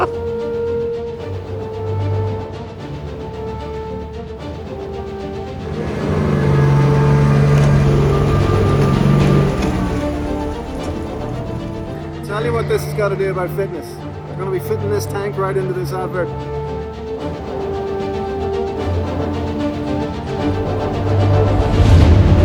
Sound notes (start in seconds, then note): 0.0 laughing; 0.3 adventurous orchestral music continues; 5.8 engine roaring; 17.4 adventurous orchestral music continues